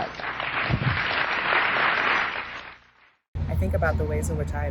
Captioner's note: audience applauding